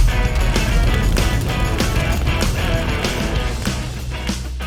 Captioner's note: flames whooshing; upbeat music